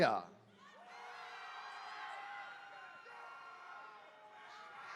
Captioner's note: attendees cheering